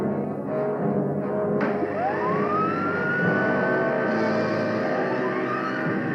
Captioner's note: machine whirring